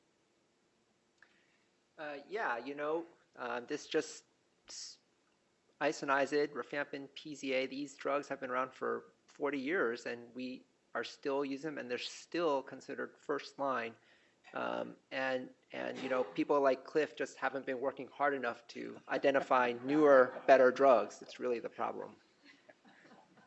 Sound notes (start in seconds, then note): 19.1 laughter